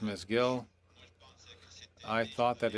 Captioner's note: speaking French